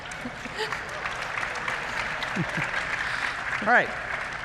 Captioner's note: laughter; applause